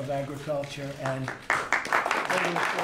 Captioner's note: clapping